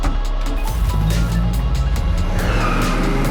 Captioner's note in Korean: 시동 소리; 타이어 소리; 엔진 소리